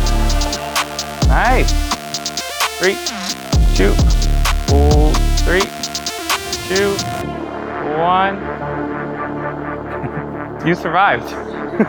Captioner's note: engine Revving